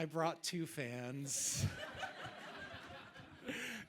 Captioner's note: audience laughing